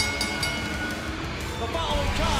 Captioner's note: cheers & applause; bell